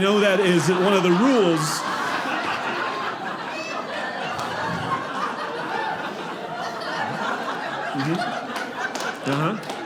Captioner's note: audience laughing